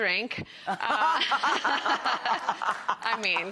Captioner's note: Rachael laughs